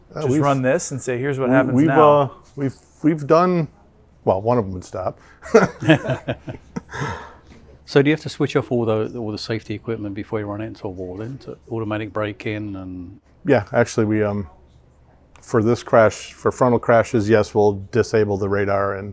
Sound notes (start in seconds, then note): 5.4 laughter